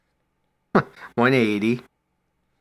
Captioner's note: chuckles